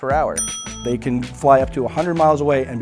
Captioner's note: ding